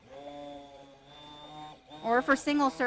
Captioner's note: blender roaring